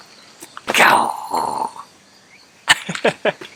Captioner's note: lion roar in Japanese; chuckles